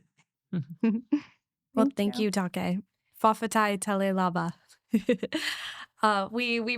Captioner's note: speaking foreign language